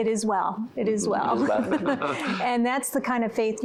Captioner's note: laughter